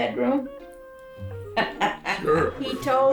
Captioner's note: laughs